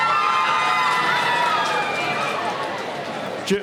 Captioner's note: cheering